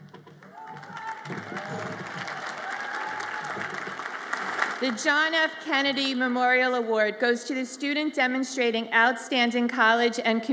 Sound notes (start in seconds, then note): 0.0 audience applauds